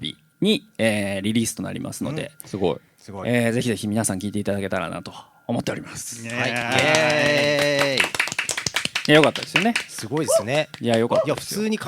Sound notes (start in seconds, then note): 6.2 applause